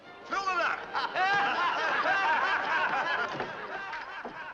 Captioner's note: men laugh